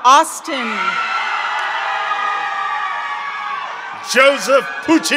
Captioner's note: members of the audience cheer